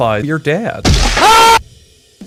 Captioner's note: fleshy crunch, screaming